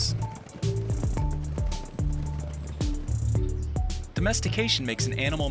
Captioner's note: hoofbeats thumping